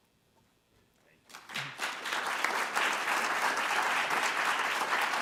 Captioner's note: audience applauding